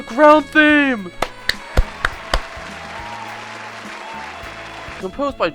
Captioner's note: audience cheers